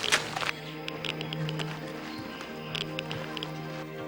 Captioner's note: machine clicking